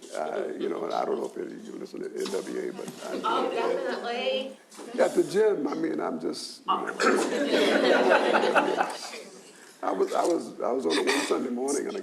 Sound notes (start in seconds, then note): 7.0 audience laughs